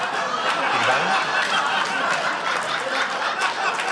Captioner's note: cheering, applause